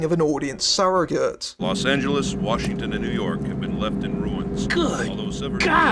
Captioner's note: radio